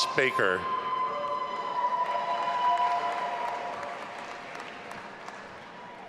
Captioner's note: all applauding and cheering